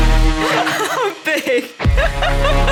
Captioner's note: laughing